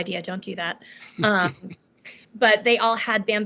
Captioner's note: laughing